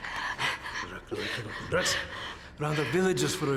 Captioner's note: speaking Slavic language